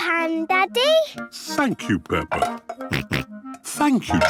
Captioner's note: snorts